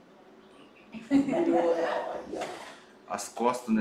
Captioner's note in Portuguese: risos